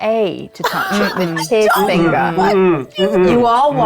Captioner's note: players laughing